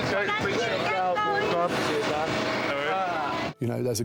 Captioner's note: people chattering